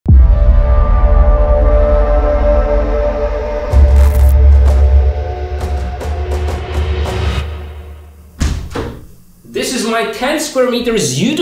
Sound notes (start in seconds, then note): 0.1 dramatic music; 8.3 door opening